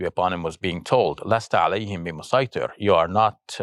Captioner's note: speaking Arabic